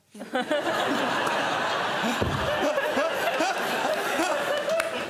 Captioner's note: laughter